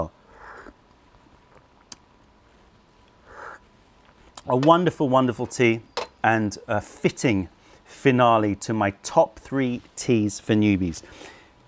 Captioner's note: sips tea